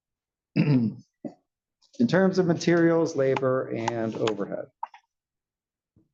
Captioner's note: cough